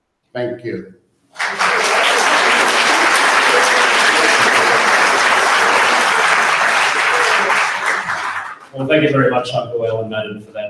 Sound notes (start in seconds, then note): 1.3 audience applauds